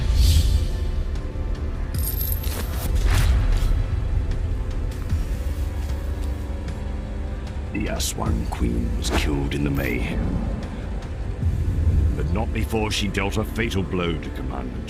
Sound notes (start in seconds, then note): 0.0 dramatic music; 0.0 whooshing; 2.0 chains rattling